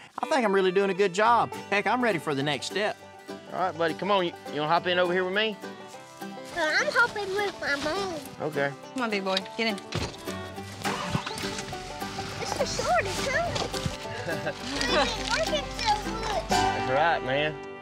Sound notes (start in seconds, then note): 12.5 laugh